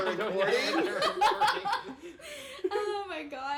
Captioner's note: laughing